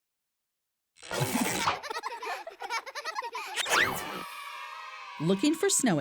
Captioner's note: children laughing